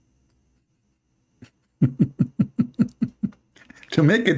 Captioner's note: Ketawa